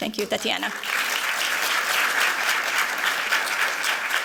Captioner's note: applause